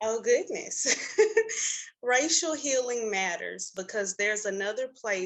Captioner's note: laughs